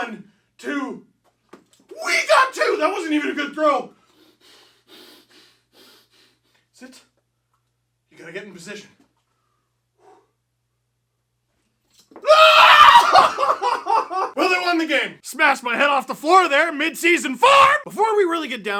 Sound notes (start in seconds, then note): 6.2 deep breaths